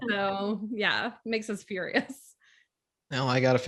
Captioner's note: chuckles